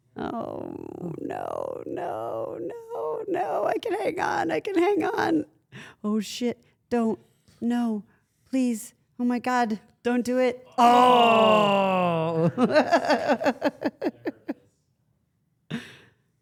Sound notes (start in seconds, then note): 12.7 Steph laughs